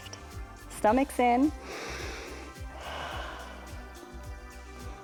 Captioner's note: inhales and exhales